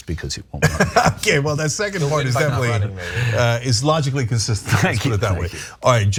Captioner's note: laugh